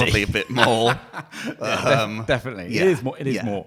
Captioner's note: laughing